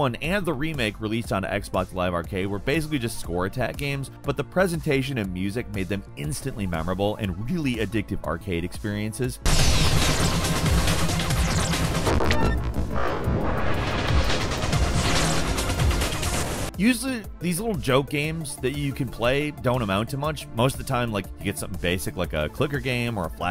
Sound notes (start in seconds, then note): 9.4 lasers blasting; 9.6 intense electronic music